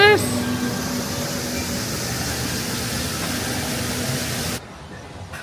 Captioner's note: water whooshing